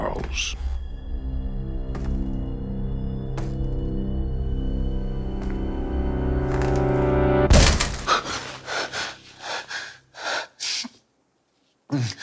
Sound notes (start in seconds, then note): 0.2 footsteps; 7.4 loud thump; 8.0 gasping